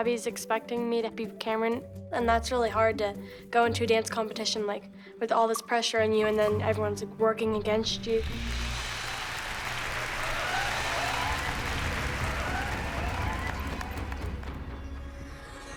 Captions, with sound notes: is expecting me to beat Kamryn. And that's really hard to go into a dance competition, like, with all this pressure on you and then everyone's working against you. [crowd cheering, applauding]